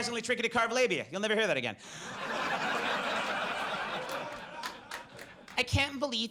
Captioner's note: audience laughs